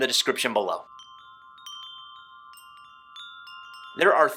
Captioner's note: wind chimes chiming